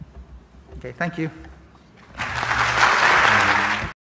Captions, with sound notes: OK. Thank you. [APPLAUSE]